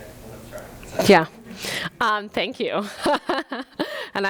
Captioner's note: laughs